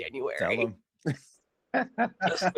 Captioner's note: laughing